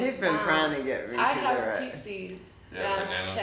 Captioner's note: speaking faintly